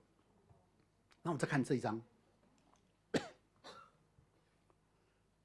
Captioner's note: cough